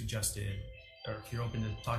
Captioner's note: cellphone ringtone sounds